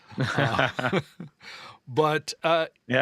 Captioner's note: laughter